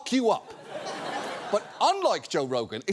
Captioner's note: audience laughs